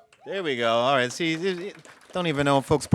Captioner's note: audience applaud